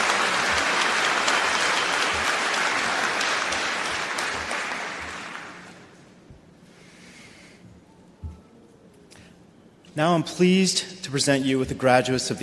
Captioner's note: applause